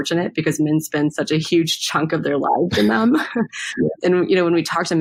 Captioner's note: laughs